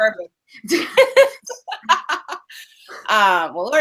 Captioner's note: laughing